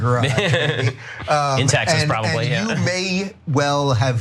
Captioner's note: laugh